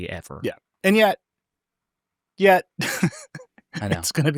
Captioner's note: laughs